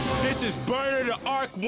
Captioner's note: explosion